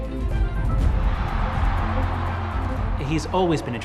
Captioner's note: crowd cheering